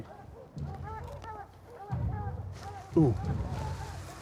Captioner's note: dogs barking in distance